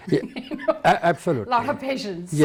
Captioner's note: laughs